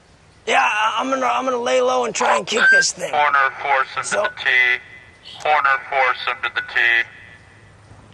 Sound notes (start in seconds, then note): 3.4 over loud speaker